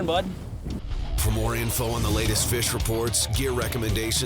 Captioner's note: voiceover